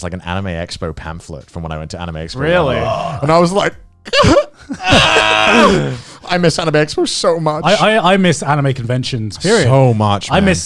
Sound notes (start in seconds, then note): 2.4 growling